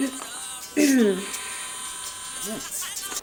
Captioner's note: throat clearing